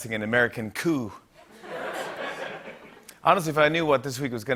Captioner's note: laughter